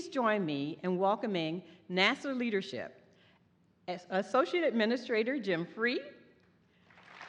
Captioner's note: applause